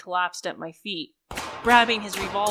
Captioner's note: gurgled breathing, falling, running, and gunfire